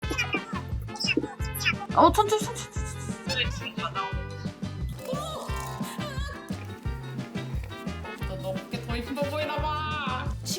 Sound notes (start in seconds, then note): 4.9 salt escaping